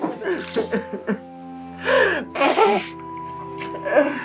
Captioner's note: sobbing